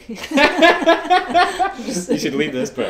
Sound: both laugh

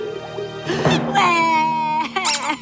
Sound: crying and toy squeaking; crying, music playing

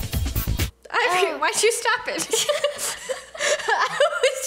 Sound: both laugh

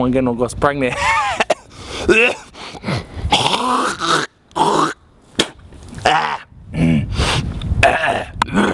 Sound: coughs

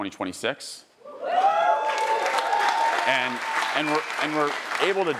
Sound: attendees cheering and applauding

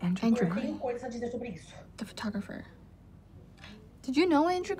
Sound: none

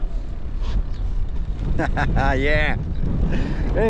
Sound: laughs

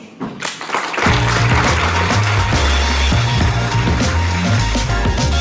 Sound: applause and upbeat music

